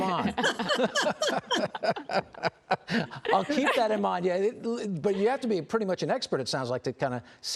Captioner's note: laughter